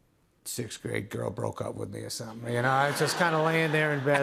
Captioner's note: laughter